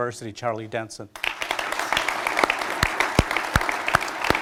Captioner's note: applause